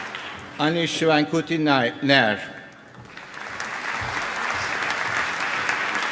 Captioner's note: applause